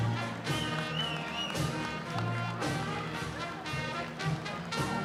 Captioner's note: whistling